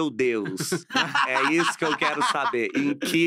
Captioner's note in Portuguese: risos